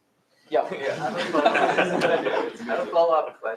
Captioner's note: laughter